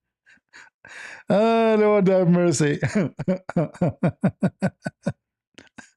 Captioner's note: laughter